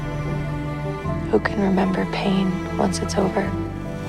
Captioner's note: voiceover